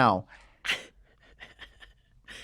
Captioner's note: laughter